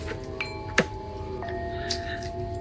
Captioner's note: doorbell